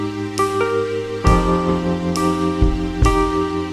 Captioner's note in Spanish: golpe